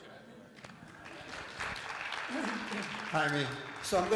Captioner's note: audience applauds